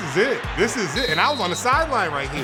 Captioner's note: whistle blowing sharply